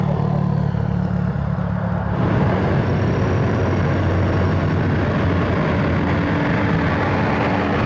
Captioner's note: traffic